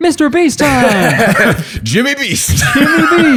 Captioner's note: laughter